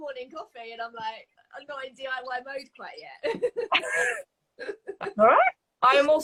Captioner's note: laughs